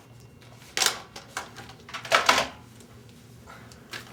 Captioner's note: phone hangs up